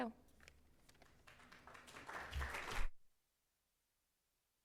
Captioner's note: audience applauds